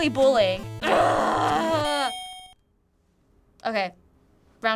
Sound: groaning

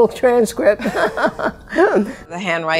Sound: both laugh

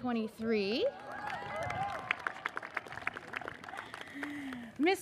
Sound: audience cheers and applauds

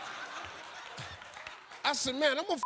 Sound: beep

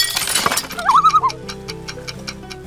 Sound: loon call

